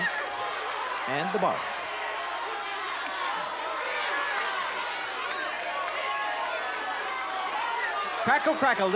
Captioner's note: crowd clamoring